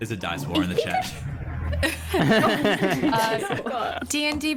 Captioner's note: all laughter